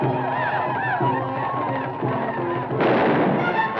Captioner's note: native Americans howl; gun fires